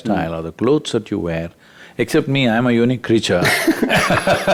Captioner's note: both Laugh